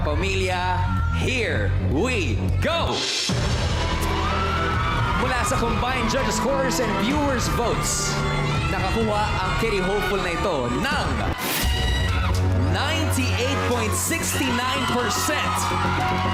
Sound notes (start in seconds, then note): 3.4 audience cheering; 3.4 tense music playing